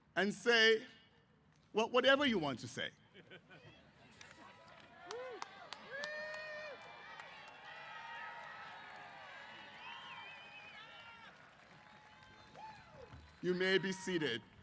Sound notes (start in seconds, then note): 3.6 cheers